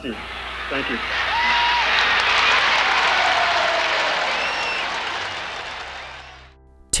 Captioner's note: crowd cheering